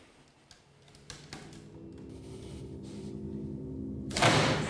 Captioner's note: suspenseful music; basket creaking; thudding